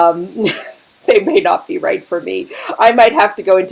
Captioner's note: laughing